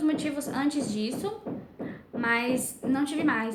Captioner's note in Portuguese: batidas na parede